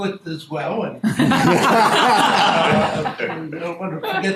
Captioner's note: laughing